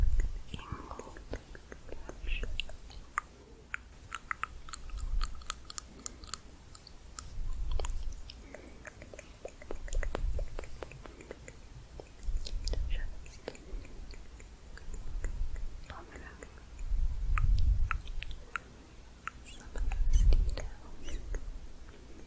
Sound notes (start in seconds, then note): 0.0 stroking bristles, clicking; 4.0 tongue clicking; 8.8 tongue clicking, lip popping